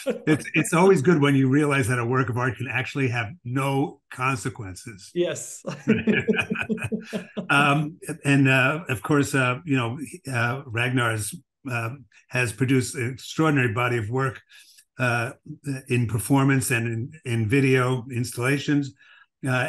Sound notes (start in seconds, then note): 0.0 laughs; 5.6 laughter